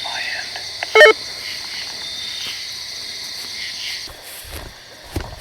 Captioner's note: walkie beeps